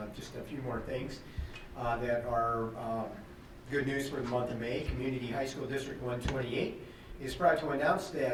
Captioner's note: none